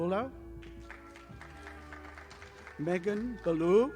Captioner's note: audience applauding